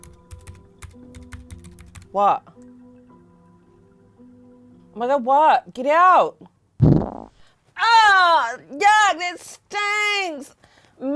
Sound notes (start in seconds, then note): 0.1 tense music; 6.8 fart effect